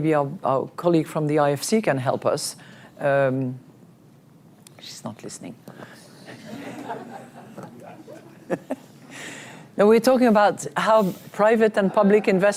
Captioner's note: laughter